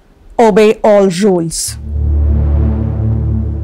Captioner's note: Mouthing